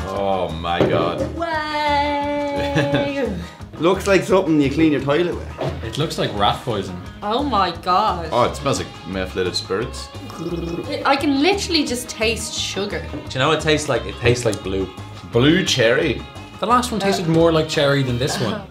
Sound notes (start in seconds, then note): 2.4 laughs; 10.2 gargles; 17.0 laughs